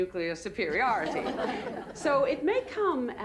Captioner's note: laughter